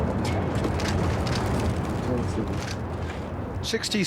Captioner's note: cameras shuttering